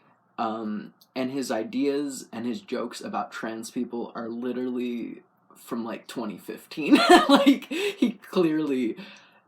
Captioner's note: laugh